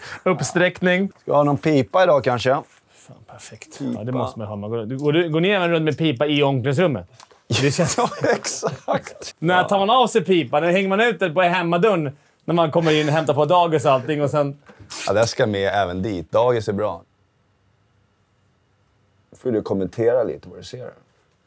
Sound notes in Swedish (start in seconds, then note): 7.6 skratt